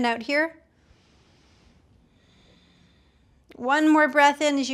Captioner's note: breathing deeply